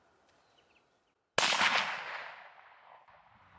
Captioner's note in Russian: выстрел